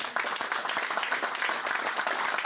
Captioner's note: applause